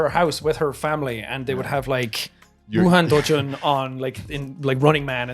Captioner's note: speaks Japanese